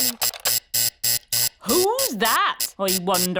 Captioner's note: alarm buzzes